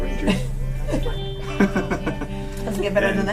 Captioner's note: laughter